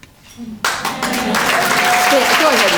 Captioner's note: applause